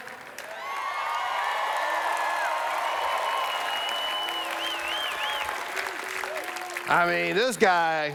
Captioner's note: cheers